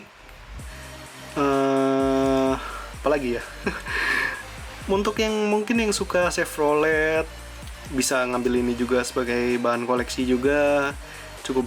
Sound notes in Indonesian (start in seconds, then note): 3.6 tertawa